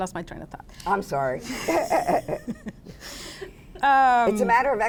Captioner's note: laughs